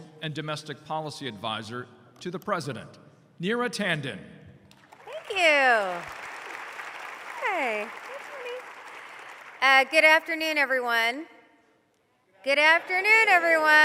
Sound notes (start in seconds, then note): 4.7 applause